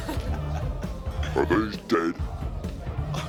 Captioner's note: distorted voice